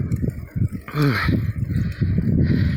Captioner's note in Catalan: Esbufega